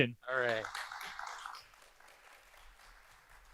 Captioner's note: applause